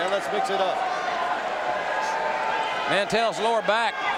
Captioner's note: audience cheering